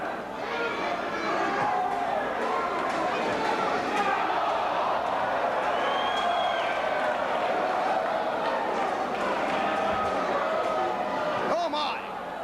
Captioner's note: crowd chatter